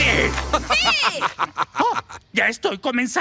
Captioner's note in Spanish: risas